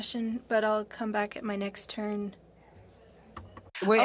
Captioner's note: speaking French